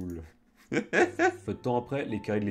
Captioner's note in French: Rires